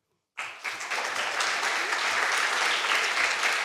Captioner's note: applause